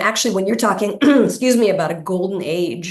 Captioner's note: clears throat